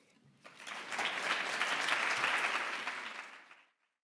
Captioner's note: audience applause